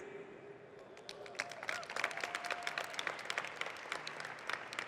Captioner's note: audience clapping